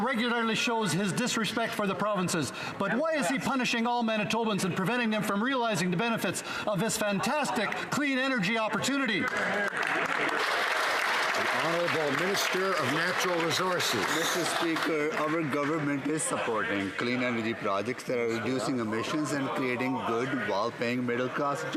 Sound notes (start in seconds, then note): 12.8 some Applause